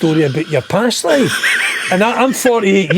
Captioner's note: laughing